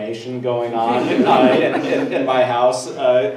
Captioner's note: everyone laughs